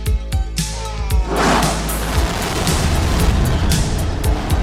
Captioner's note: concentrated straining, followed by jet blast